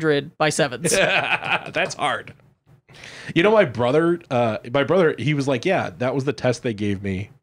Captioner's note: laughs